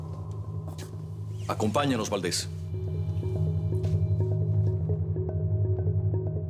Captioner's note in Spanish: Sonido de puerta al abrir